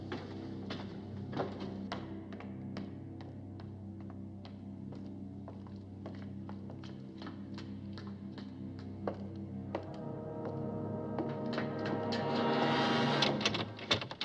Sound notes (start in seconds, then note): 3.4 footsteps Overhead; 8.7 footsteps Approaching